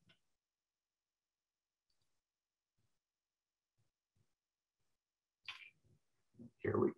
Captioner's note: silence